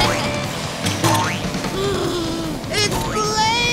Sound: gasping

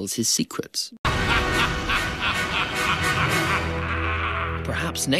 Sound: evil laughter

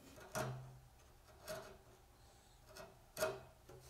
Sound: chisel rattles

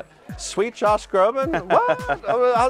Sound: laughing

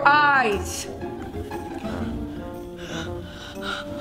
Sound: gasping

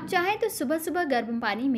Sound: hindi

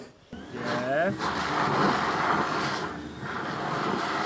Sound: vacuum noise

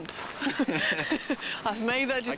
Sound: laughs

